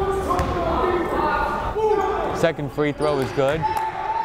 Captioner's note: yelling